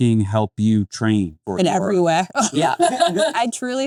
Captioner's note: laughs